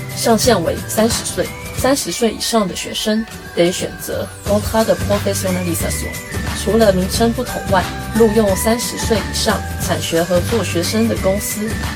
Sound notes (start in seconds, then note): 5.9 in french